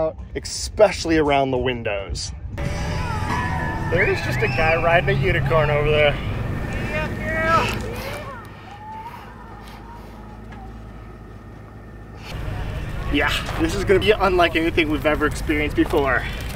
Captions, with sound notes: Especially around the windows. [Crowd cheering] There is just a guy riding a unicorn over there. Giddy up girl. Yeah. This is going to be unlike anything we've ever experienced before.